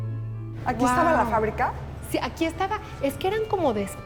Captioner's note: speaking Spanish